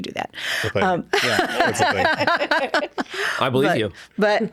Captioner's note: laughing